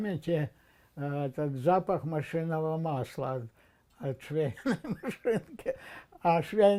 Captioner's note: laughing